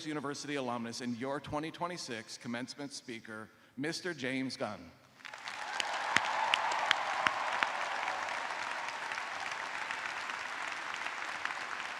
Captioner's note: cheers and applause